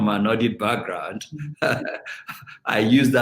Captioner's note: laughing